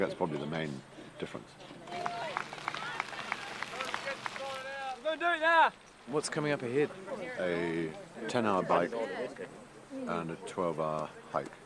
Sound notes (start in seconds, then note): 1.8 cheering